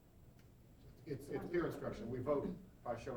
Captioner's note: voiceover